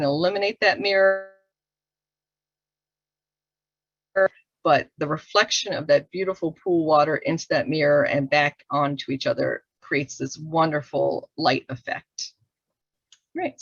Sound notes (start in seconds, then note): 2.2 audio drops